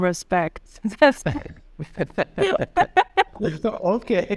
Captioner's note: laughing